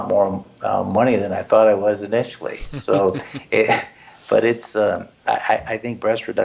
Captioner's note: laugh